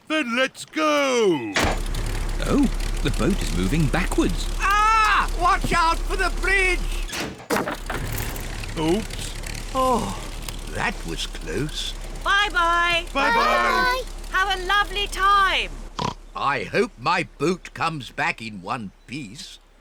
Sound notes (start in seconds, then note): 1.3 lever clunks; 7.3 crunching; 16.0 oinks